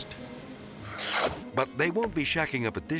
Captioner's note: transition whooshes